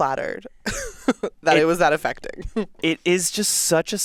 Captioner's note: chuckles